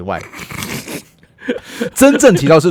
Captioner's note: he laughs first